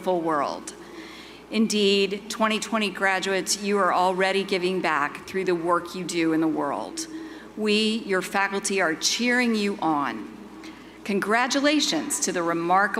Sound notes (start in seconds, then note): none